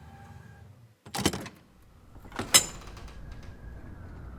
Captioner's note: door closes, outdoor ambience